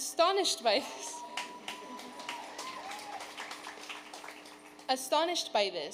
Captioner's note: audience cheering